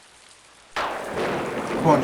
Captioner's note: thunder clap